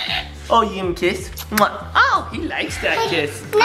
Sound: kisses

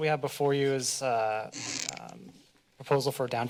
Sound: mic noise

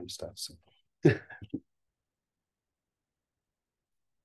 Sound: chuckles

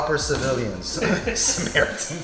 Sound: laughing

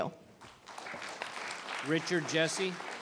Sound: audience applauding

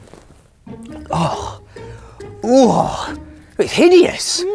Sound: groans

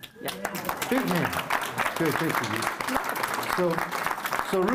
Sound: applause

